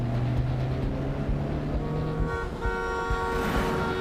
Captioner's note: horn blaring